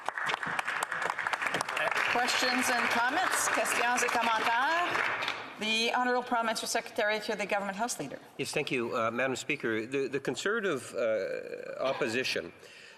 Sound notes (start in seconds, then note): 6.0 some applause